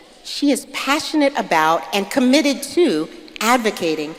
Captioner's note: none